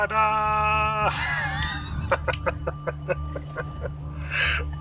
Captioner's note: laughs